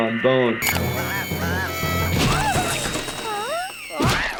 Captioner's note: drill buzzing